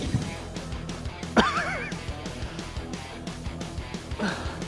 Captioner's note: upbeat rock music continues; Ethan laughing